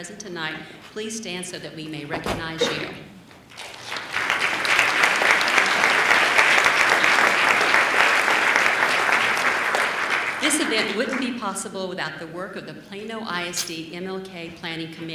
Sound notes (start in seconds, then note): 3.5 applause